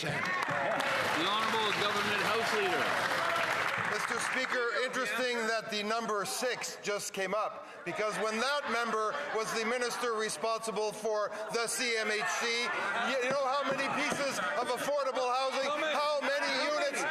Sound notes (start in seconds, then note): 5.1 some Applause